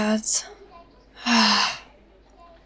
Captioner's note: sighs